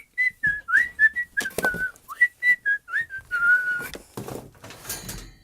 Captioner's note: whistling the theme to "The Muppet Show"